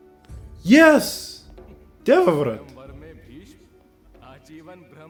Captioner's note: scoffs